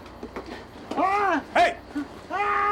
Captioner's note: yells